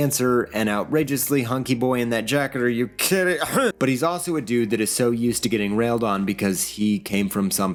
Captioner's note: cough